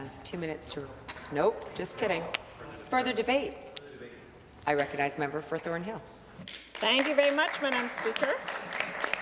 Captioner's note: some Applause